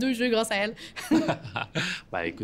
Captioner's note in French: rires